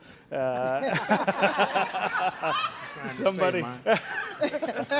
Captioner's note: all laughing